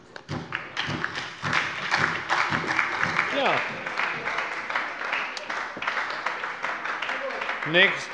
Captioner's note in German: Beifall bei der SPD